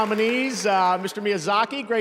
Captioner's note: cheers and applause